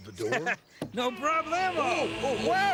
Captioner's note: Stinky laughing